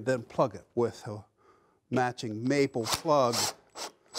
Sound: saw sawing

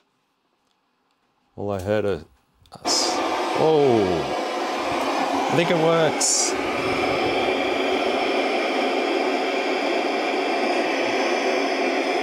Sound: loud white noise

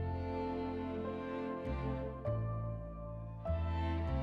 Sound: none

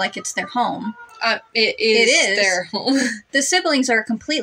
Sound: laugh

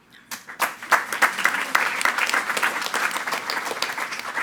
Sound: attendees clapping

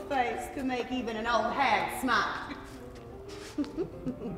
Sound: chuckles

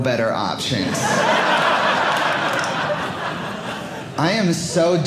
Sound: audience laughing

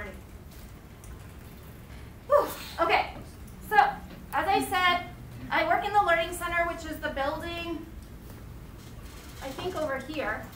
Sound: exhales

